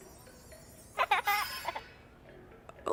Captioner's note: children laughing